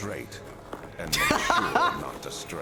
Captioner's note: laughs